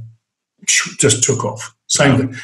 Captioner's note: makes whooshing sound